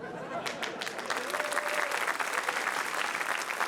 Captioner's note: laughter, applause